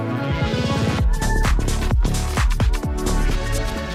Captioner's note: applause